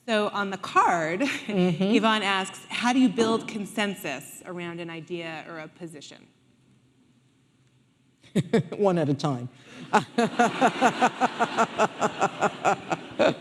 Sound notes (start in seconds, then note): 9.8 laughing; 9.8 audience laughing